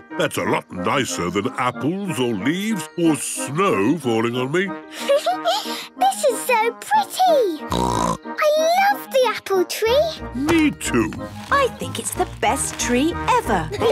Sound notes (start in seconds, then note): 4.7 Peppa laughing; 7.6 snorting; 13.6 laughter